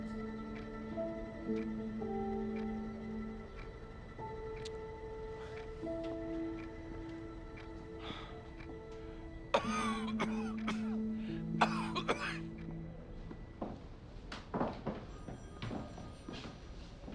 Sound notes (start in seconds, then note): 9.4 coughing